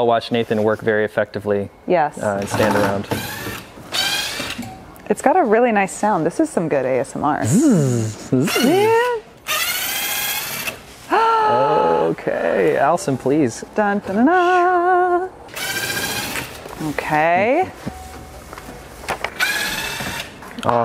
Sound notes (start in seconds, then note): 3.9 electric drill whirrs; 7.4 imitates drill sound; 9.4 electric drill whirrs; 15.5 electric drill whirrs; 19.3 electric drill whirrs